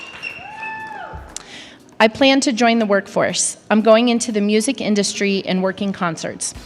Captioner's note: applause